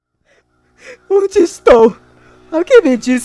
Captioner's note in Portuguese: chorando